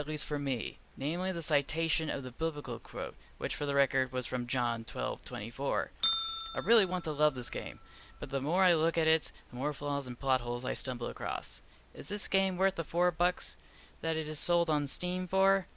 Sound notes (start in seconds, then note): 6.0 ding